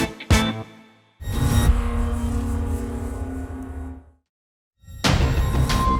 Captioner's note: electronic swoosh; eerie music